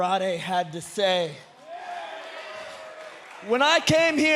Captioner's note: crowd cheering